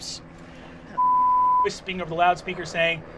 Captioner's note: beeping